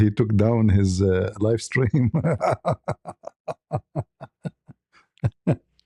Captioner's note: ketawa